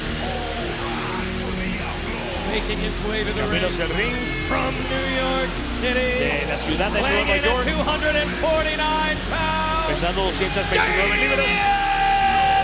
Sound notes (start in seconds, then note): 2.4 commentators speaking Spanish